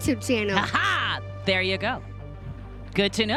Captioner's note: laughs